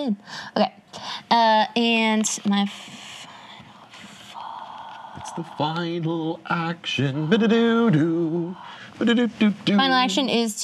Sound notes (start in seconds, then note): 3.4 whispers; 7.1 sings